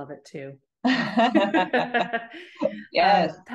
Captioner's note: both laughing